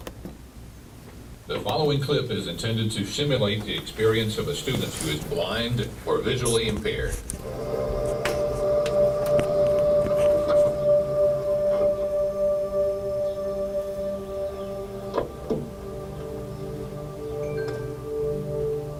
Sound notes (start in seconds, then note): 11.5 car door; 13.1 foot steps